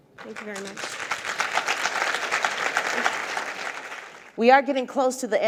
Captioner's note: audience applauds